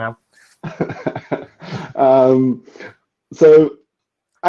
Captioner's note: laughing